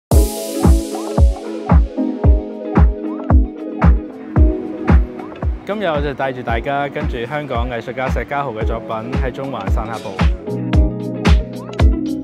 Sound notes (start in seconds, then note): 0.1 upbeat music begins; 6.0 Cantonese